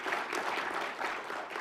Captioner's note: applause